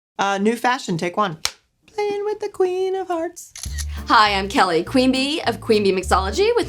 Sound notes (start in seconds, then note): 1.6 slate clacks together; 3.5 camera clicks